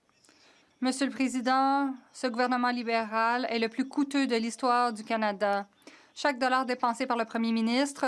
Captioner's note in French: voix de l'interprète